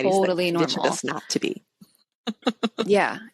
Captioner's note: laughs